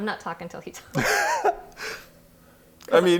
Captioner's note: laughing